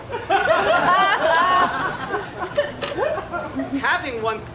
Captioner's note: audience laughs